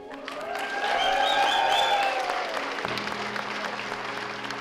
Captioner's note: clapping and cheering